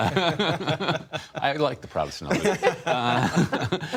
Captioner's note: laughter